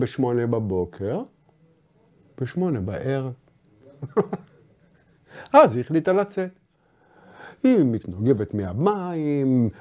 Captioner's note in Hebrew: צוחק